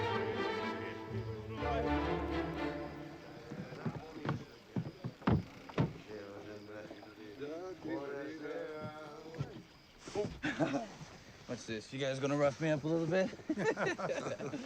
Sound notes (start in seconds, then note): 6.2 drunk murmuring; 13.3 laughing